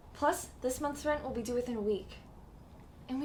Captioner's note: none